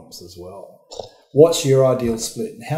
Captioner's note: imitates explosion